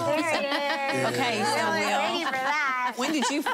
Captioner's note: laughter